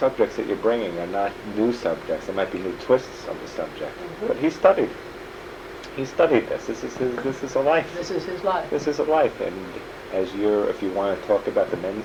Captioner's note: laughs